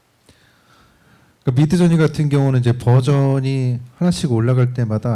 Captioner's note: speaking korean